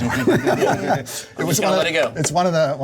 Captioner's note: laughter